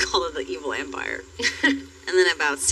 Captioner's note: chuhuckles